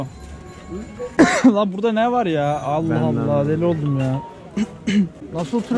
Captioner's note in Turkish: öksürüyor